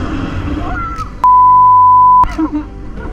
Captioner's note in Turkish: çığlık atıyor